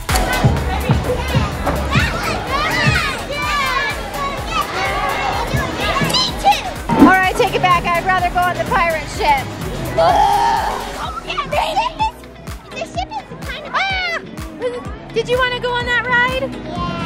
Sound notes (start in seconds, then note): 3.0 kids cheering and yelling